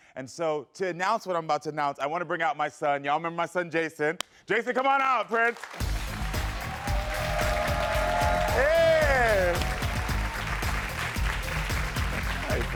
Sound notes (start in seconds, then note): 5.6 crowd cheering; 5.8 upbeat music